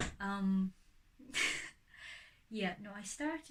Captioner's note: laughs